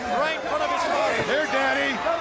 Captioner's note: crowd chatter